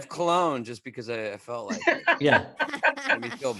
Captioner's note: laughs